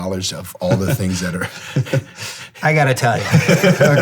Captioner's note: laughing